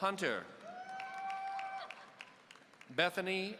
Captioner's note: audience cheering